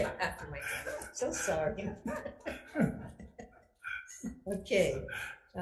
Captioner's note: everyone laughs